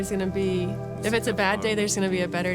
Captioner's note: mumbles